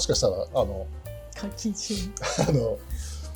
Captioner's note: laughs